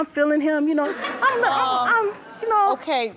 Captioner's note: audience laughs